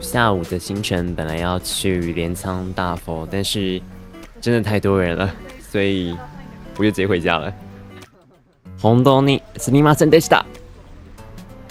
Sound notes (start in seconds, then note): 7.7 laughs